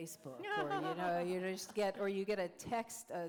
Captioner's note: laughter